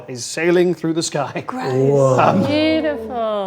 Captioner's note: overlapping chattering